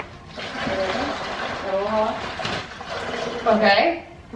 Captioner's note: brine sloshing